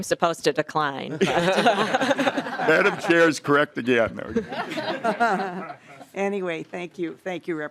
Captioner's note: laughing